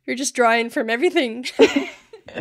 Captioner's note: laughing